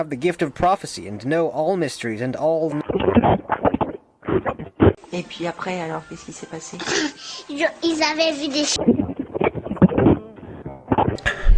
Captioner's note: static cut to heavy breathing with crowd sounds in the background